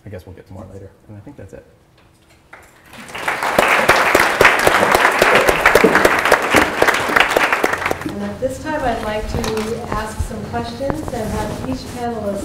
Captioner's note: applause